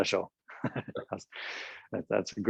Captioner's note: laughs